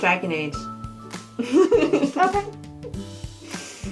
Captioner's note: laughter